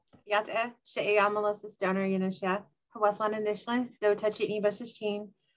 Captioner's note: speaking in foreign language